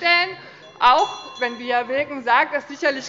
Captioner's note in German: Unruhe - Glockenzeichen des Präsidenten